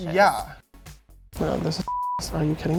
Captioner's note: beep